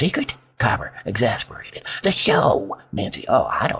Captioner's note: exasperated